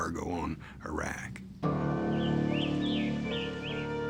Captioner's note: birds singing